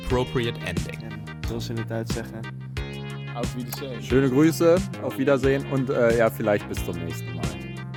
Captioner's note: German